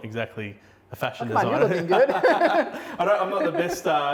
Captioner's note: laughing